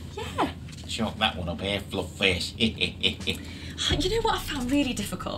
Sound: chuckles

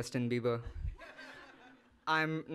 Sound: audience laughing

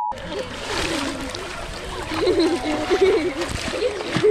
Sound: water splashing

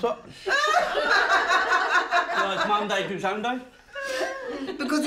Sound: laughter

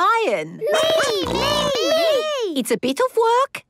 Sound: snorting

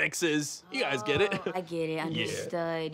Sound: chuckles

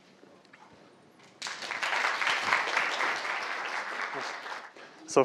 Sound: applause

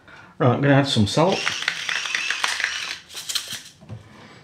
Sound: electric grindery

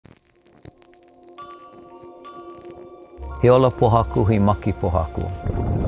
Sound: flame crackling; soft music; volcano rumbling

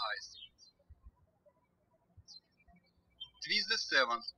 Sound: birds chirping

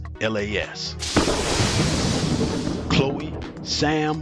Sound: lightning striking

